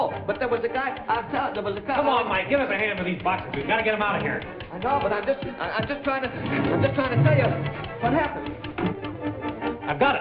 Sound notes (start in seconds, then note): 5.6 stuttering; 10.0 dramatic music